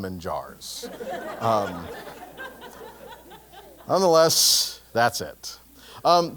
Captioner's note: laugh